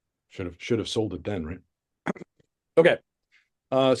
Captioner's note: clears throat